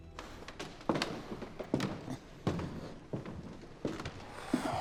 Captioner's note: floorboards creaking underfoot; Eugene sighing